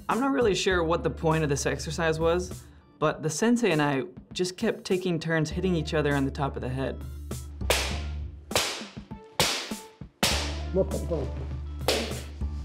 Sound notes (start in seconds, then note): 10.4 speaking japanese